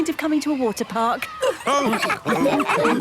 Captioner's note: all laughing